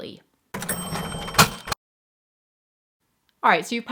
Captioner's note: cash register ka-ching